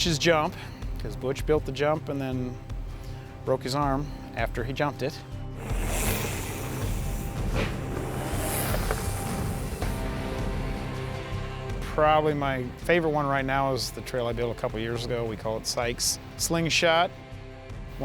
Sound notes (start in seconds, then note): 5.6 wheels whir